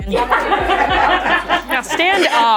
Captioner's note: everyone laughing